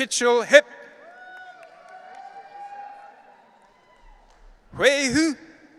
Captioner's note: audience cheering